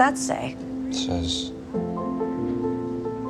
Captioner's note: voiceover